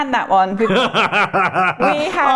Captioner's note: laughter